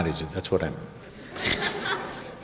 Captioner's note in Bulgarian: смях